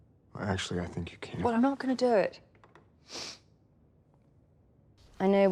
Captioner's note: sniffs